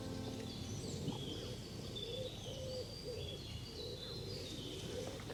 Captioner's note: pigeon calls